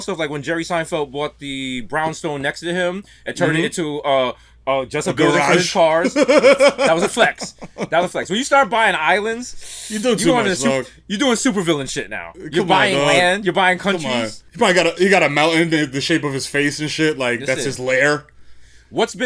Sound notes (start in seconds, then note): 6.0 laughs; 9.6 sucks in air